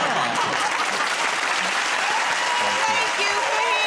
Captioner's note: cheers and applause